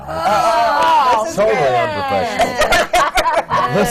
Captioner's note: laughter and groans from the panel